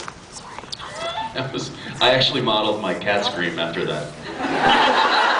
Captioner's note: laughs